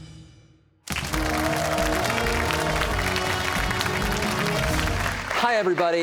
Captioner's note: cheers and applause